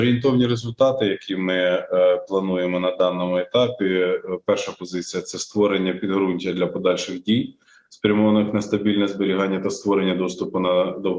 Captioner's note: foreign Language Spoken